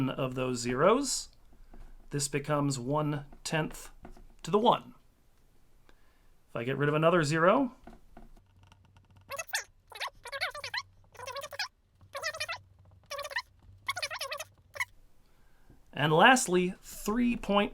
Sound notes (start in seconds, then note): 10.9 more fast-forward noises